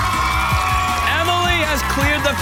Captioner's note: cheers and applause